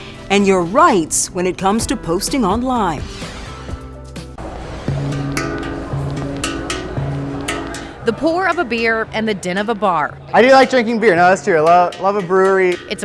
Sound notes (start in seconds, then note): 3.0 logo whooshing; 4.3 soft music